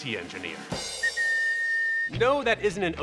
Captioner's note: bright whistling